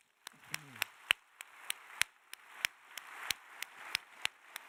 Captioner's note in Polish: oklaski